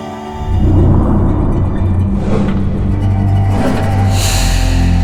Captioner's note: air whooshing